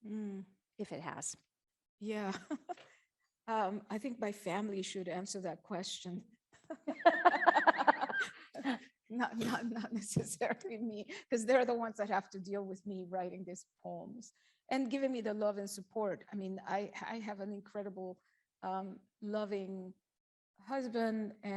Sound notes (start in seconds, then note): 2.2 laughs; 6.7 chuckles